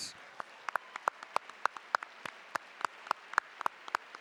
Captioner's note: audience applauding